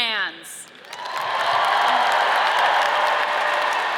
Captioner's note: audience cheers